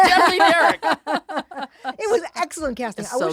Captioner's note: laughs